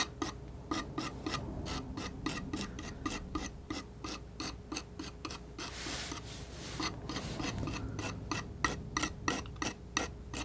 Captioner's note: scratching